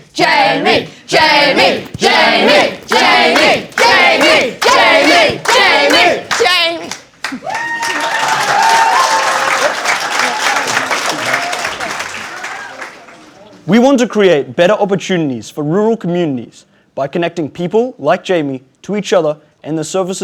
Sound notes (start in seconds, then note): 7.2 cheering and applause